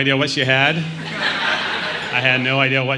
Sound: crowd laughing

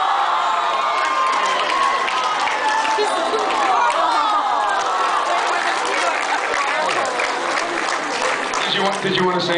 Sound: applause and awwwws

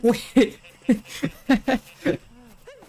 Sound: laughing

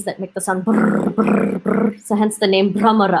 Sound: imitates the bumblebee sound

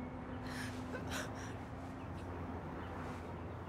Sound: woman crying

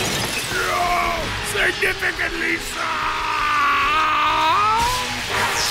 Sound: voice returning to normal pitch

